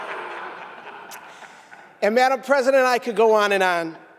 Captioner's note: laughter